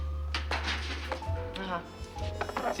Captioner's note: clatters